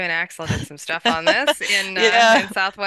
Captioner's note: laughs